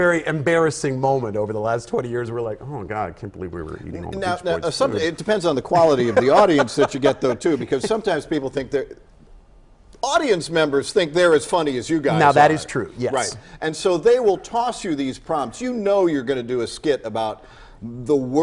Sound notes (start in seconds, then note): 3.6 laugh